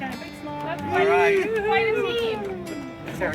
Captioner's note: cheering